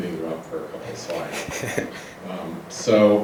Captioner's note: laughs